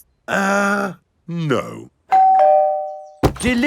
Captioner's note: doorbell rings